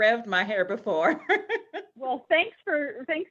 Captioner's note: chuckles